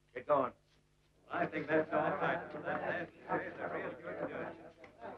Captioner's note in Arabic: ثرثرة الرجال